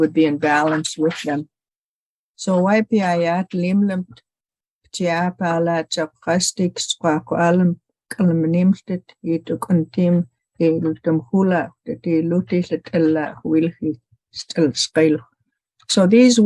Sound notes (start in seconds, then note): 6.0 Speaking Syilx